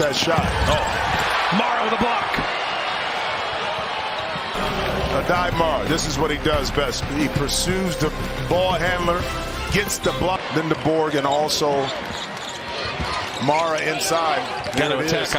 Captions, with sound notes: [ CHEERS AND APPLAUSE ] [ CROWD NOISE ] >> THEY HAVE NUMBERS RIGHT NOW FOR MICHIGAN. MIAMI, THIS IS WHAT MIAMI MIAMI, THIS LEADS ACTION BETWEEN LENDEBORG AND ALSO, MARA INSIDE. YOU KNOW, ATTACKING AVILA HERE.